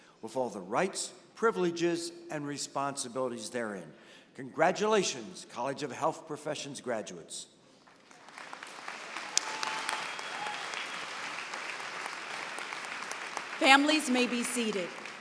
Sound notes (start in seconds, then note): 7.8 applause